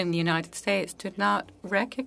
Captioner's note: speaking french